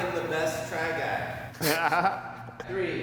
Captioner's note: everyone chuckles